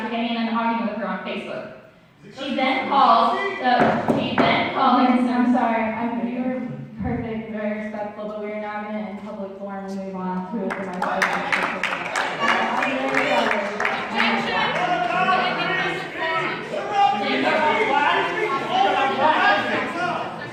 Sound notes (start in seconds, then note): 3.8 gavel banging; 12.9 crowd clapping